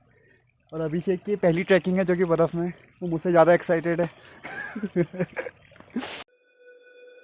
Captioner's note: laughs